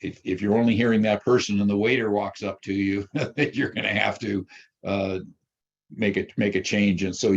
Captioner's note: chuckles